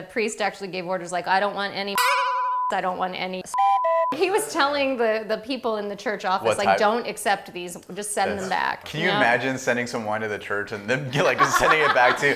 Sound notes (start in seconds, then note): 1.9 boing; 3.6 whistle